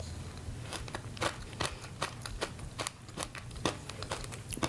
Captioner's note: crunching